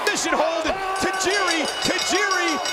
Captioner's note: bell rings